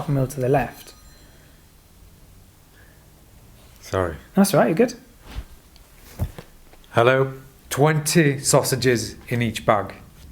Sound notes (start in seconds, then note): 2.5 phones rings